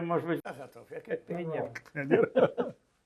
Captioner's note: laughing